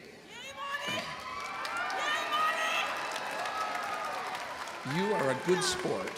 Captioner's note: audience cheering